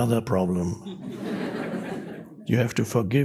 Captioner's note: audience laughs